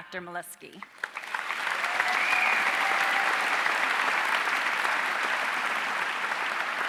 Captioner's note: audience cheering and applauding